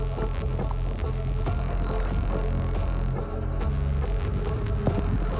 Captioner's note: footsteps crunch